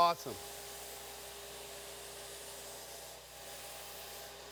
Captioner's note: spray hisses